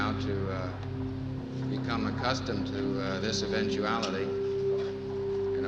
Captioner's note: none